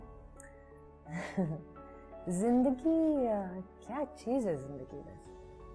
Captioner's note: giggles